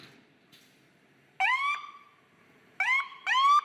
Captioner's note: siren wailing